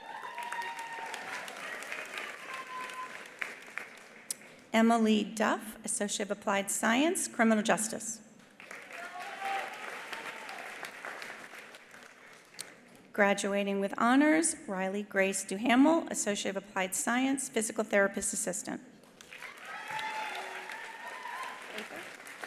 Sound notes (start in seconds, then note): 0.0 attendees cheering; 0.0 attendees applauding; 8.5 attendees applauding; 8.8 attendees cheering; 19.2 attendees applauding; 19.4 attendees cheering